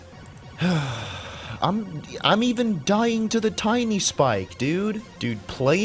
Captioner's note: sigh